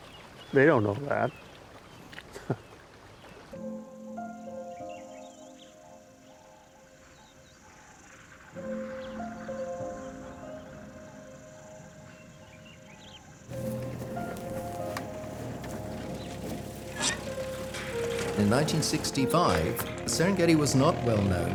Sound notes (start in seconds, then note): 2.3 chuckling; 6.0 insects chirping